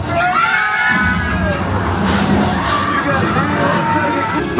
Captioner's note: passengers screaming